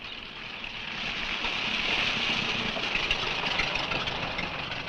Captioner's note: engine rumbling